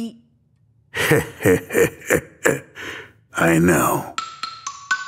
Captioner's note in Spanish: Risas